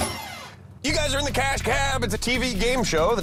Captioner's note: alarm sounds, bells ring